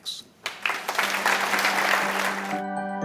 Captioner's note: applause